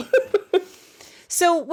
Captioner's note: laughing